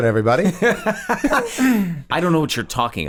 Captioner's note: all laugh